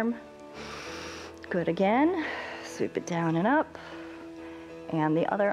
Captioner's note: inhales